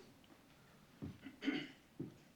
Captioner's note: clearing throat